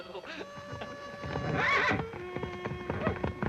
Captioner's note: horse neighing